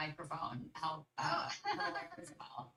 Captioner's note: laughs